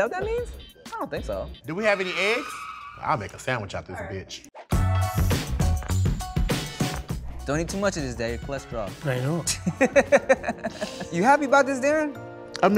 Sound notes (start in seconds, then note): 4.5 upbeat hip hop music; 9.4 laughing